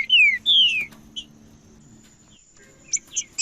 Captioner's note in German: trinca ferro cantando